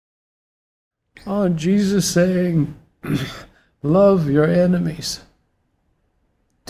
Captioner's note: tearfully